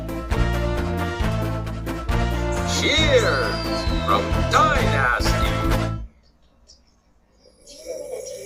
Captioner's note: slurps